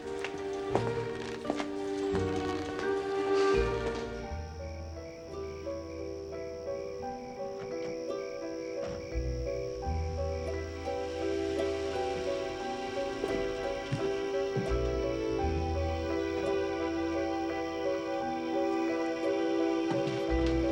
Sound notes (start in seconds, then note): 0.0 suspenseful music; 4.4 dramatic music; 4.4 insects chittering; 8.8 doors thudding